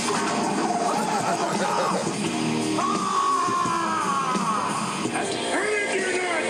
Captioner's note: laugh